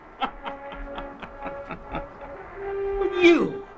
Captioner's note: laughter